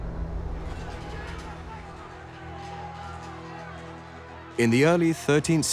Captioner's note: shouting